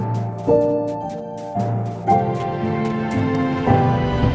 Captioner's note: footsteps in snow